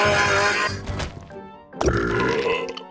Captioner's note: burps